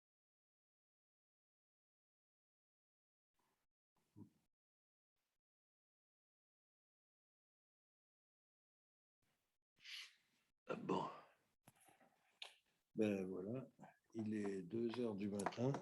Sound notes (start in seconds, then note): 10.8 speaks in French